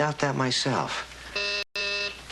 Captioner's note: phone buzzes